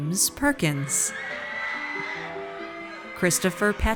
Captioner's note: audience cheers